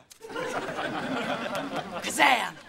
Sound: laughing

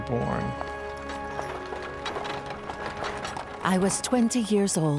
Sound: footsteps echoing

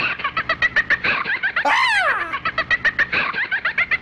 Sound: doll laughs creepily; screams

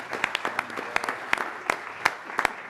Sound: applause

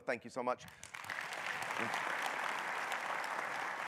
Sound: audience applauding

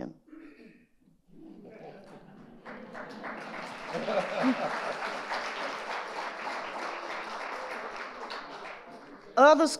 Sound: audience laughing and applauding

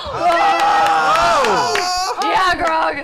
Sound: cheering

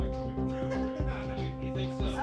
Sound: laughing

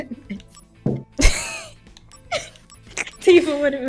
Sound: starts laughing; both laugh; friend laughing

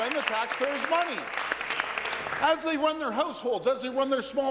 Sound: applause

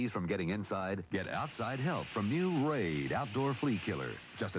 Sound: can sprays

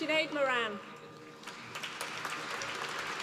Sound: applause

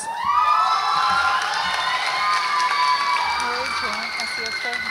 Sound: audience applauds and cheers

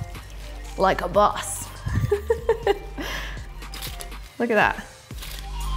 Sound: chuckles

